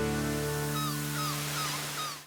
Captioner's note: seagull squawking